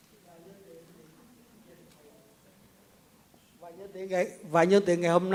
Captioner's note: speaks in Vietnamese